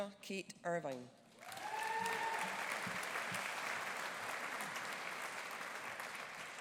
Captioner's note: audience cheering; audience applauding